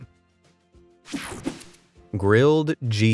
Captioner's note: light, upbeat music; graphics whoosh